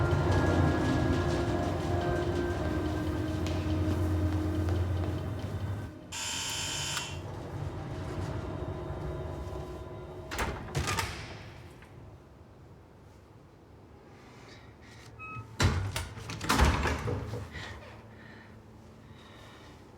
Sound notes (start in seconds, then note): 0.1 lift humming; 6.1 doorbell buzzing